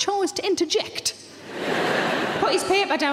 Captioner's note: audience laughing